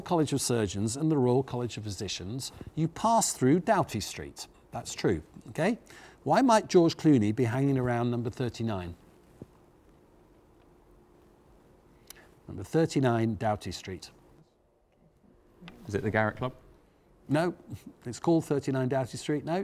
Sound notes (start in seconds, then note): none